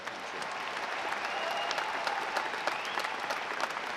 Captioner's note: audience applauding